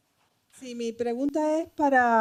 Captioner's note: speaking spanish